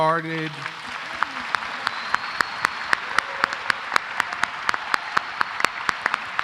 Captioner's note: applause